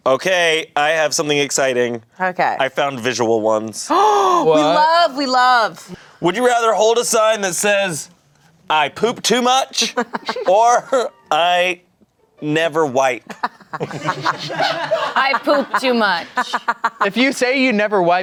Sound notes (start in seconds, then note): 3.9 gasps; 13.2 everyone laughs